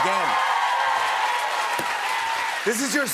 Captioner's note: cheers and applause